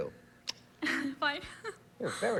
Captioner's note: giggles